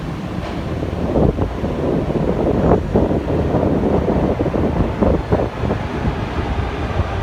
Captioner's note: arrival of train at the station